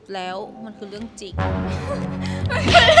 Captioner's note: laughs